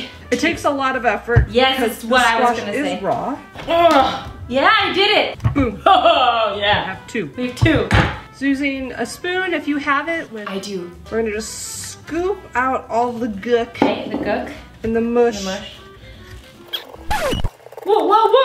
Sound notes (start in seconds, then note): 3.9 grunting; 5.6 laughs; 16.5 record scratches